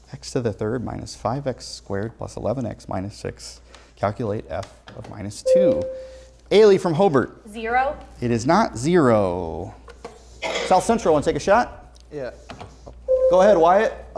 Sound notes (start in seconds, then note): 5.4 buzzer sounds; 13.1 buzzer sounds